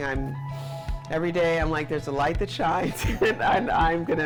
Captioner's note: chuckles